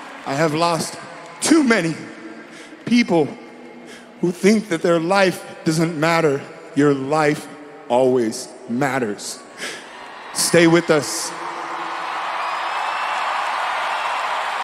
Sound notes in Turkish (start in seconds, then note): 11.6 Seyirciler neşeleniyor